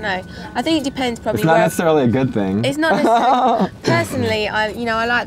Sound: laughs

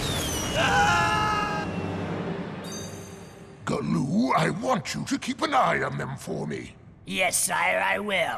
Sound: screaming

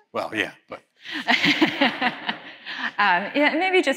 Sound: laughter

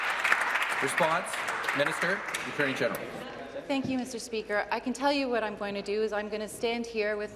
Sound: applause

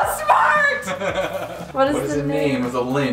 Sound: laughing

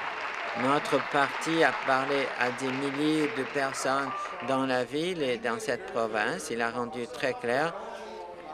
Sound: applause

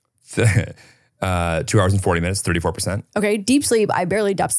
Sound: chuckles

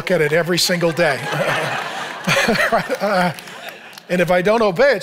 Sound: congregation laughing; laughs

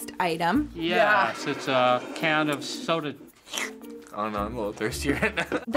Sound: slurps

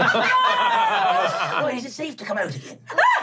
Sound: laughing

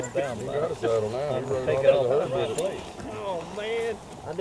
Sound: men chatter

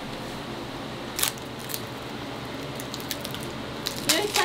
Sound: plastic crackling

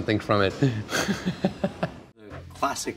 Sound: laughs

